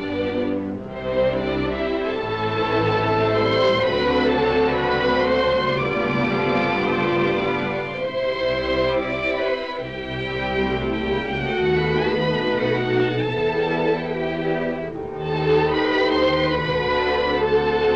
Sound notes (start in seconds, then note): none